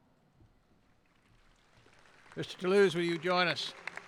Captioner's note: applauding